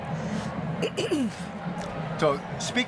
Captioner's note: coughs